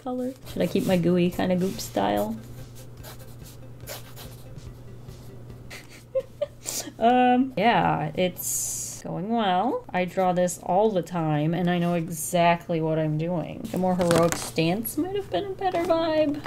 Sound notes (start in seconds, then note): 9.7 sarcastically